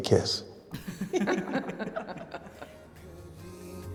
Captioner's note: the guests laugh